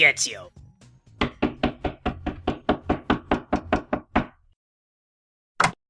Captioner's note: repeated knocking; door opening